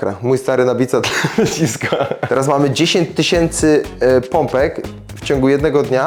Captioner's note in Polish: śmiech